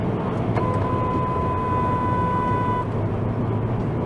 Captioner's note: dashcam driver honks